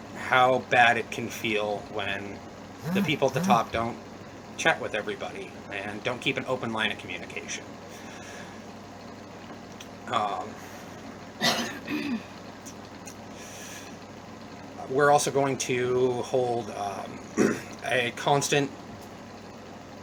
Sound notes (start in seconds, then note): 11.4 cough